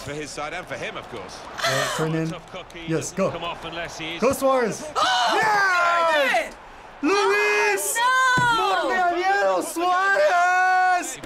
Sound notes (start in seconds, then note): 5.0 gasping